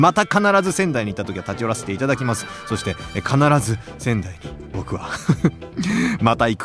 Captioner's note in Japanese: 笑い